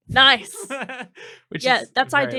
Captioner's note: laughing